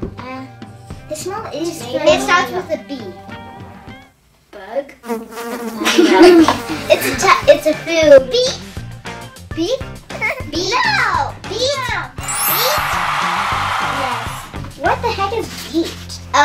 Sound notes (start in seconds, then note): 5.1 buzzing; 5.8 laughter; 12.2 cheering